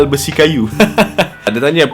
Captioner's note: laughs